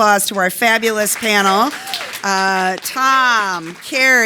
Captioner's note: audience applauding